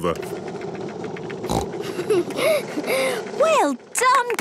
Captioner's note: giggles, snorts